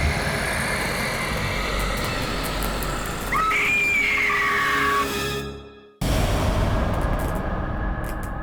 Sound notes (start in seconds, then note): 3.3 screaming; 5.2 ominous music; 6.1 thunder crashing; 6.1 electrical buzzing